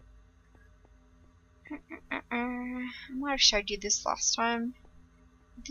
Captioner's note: hums